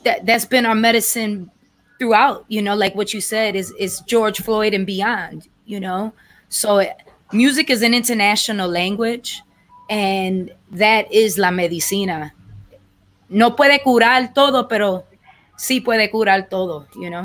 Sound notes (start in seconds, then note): 9.3 speaking language other than English